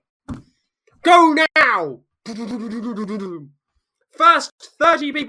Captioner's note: imitates feet pounding